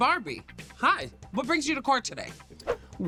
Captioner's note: air swish